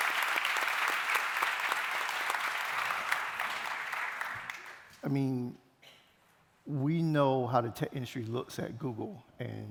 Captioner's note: applause